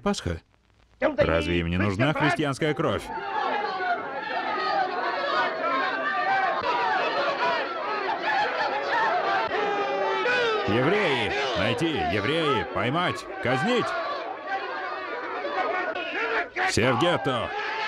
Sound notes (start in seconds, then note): 3.5 group shouting